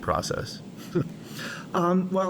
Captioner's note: laughs